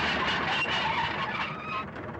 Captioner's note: engine stops